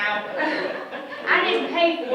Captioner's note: all chuckling